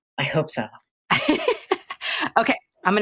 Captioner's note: laughs